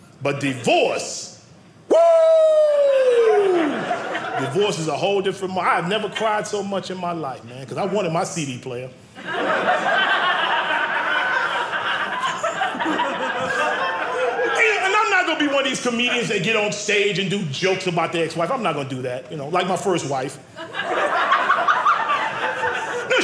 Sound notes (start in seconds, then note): 9.1 audience laughing; 20.5 audience laughing